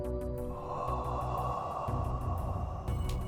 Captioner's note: whooshing sound